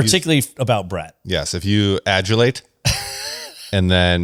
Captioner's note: laughs